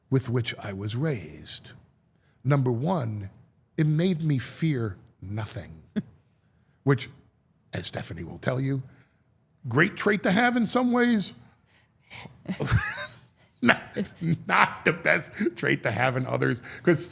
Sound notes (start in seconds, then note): 12.5 chuckles